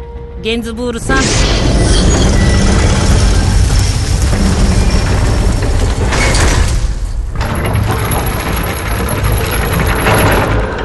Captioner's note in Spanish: puerta del barco abriéndose